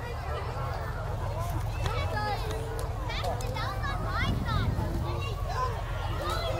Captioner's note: revving and chattering continue